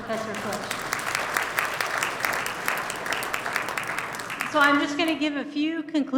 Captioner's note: applause